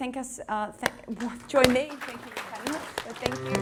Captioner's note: audience applause